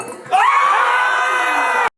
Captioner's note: crowd screeeeeeeeeeeeams of joy